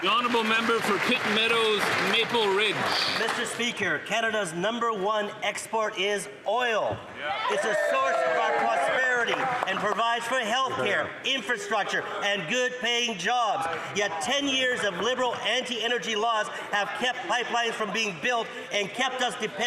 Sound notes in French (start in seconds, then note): 6.5 voix de l'interprète